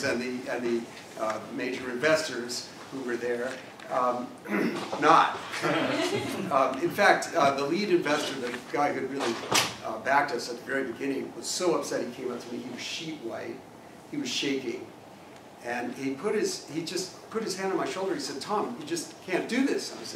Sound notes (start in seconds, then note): 4.4 cough; 5.6 laugh